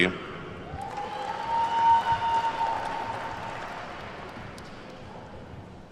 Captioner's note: attendees whooping and clapping